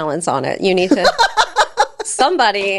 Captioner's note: laughs